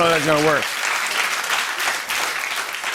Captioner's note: applause